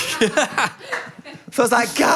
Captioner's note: producers laugh; laughs